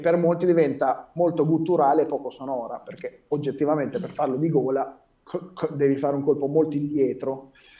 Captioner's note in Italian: rumore di colpo di gola